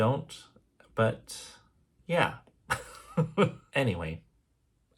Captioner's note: chuckles